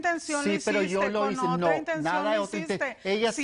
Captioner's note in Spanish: Hablan al unísono